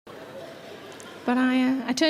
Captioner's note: audience murmur